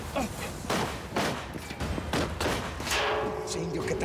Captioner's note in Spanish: continúan los disparos